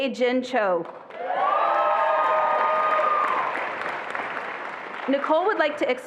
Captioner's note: attendees applauding and cheering